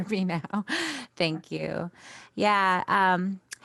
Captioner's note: laughs